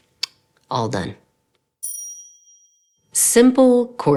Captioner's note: awesome ding sound